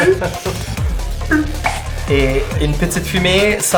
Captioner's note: vocalizing uncorking a vial